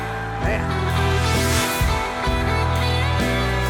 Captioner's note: cheering; rock music